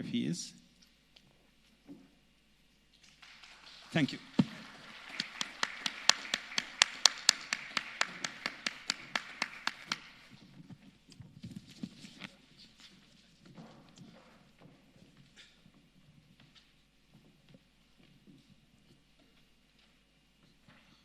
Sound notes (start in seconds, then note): 7.7 applause